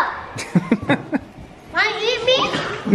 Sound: laughs

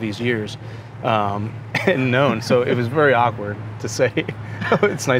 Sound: laughs

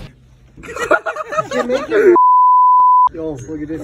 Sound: laughing

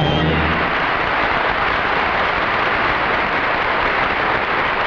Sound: audience applauding

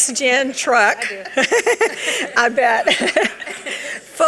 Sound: laughs

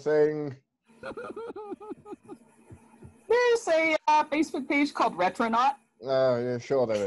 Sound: laughter

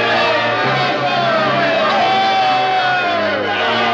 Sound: cheering

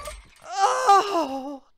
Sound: MAKOTO moans

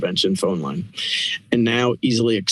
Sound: inhales

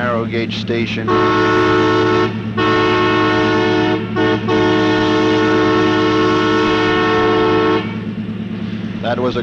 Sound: train Horn

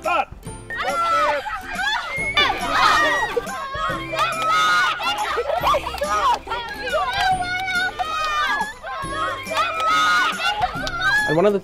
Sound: children playing

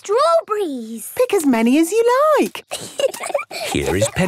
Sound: giggling

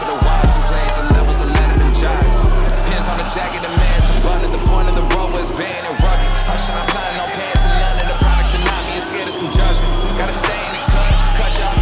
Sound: crowd chanting

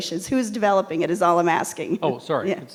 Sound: chuckles

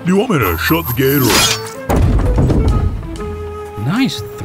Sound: metal clang, thud

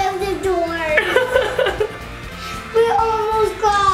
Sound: laughs

